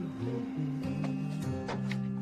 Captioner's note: Lee continues to hum